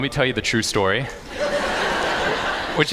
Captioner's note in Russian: Смех